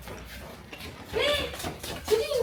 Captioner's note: gasps